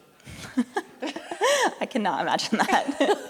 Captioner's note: laughing